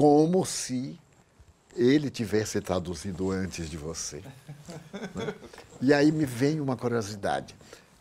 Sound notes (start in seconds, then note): 4.2 laughs